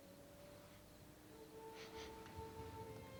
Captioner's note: sniffs